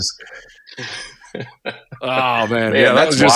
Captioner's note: laughing